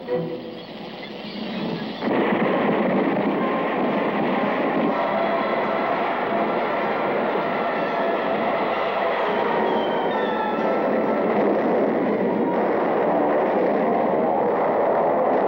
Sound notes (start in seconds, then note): 1.7 shots, explosions